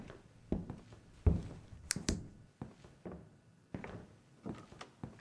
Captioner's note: snaps fingers